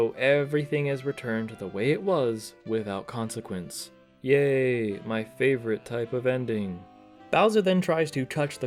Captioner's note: sarcastically